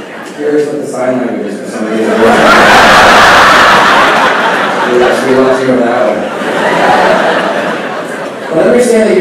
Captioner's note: laughing